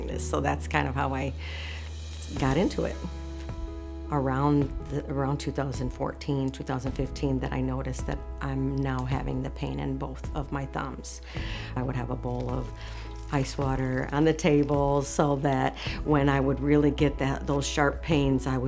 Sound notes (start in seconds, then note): 12.3 ice cubes rattling